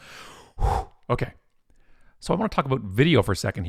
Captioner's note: exhales